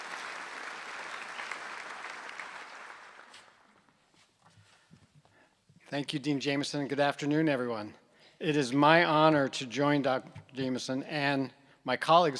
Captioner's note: applause